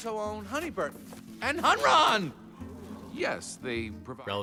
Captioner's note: jury gasping